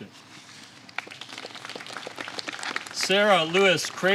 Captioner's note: applause